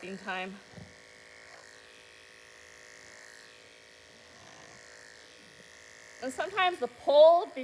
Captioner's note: clippers buzzing